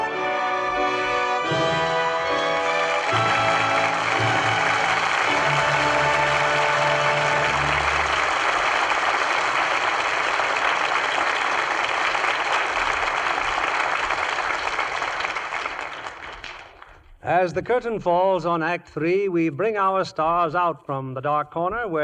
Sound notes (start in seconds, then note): 4.6 applause